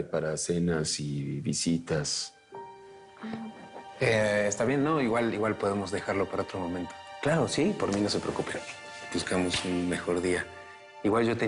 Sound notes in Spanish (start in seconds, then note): none